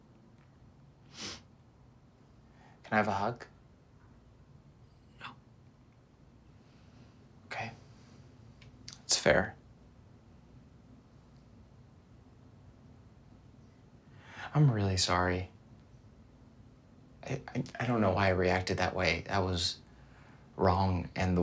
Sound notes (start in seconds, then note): none